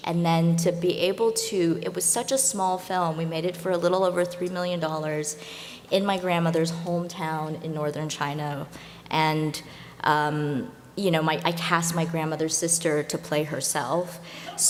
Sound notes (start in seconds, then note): none